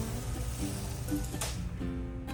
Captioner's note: bearing noises; plap